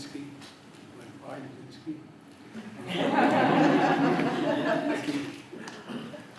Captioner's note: laughter